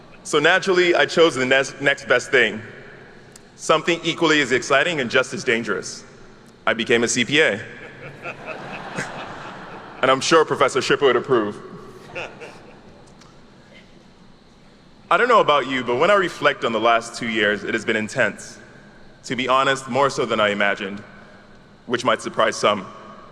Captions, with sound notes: So naturally, I chose the next best thing, something equally as exciting and just as dangerous. I became a CPA. (attendees laugh) And I'm sure Professor Schipper would approve. I don't know about you, but when I reflect on the last two years, it has been intense, to be honest, more so than I imagined, which might surprise some.